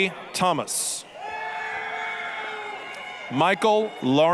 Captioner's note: applause, cheering